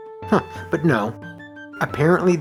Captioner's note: chuckle